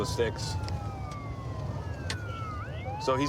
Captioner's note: sirens wailing